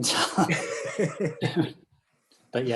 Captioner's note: laughter